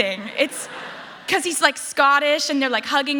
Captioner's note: laughter